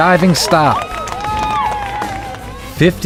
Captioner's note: crowd cheers